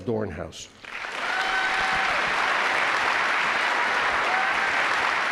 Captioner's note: audience cheers and claps